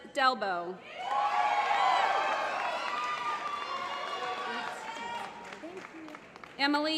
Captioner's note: applause